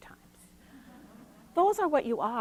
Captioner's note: attendees laughing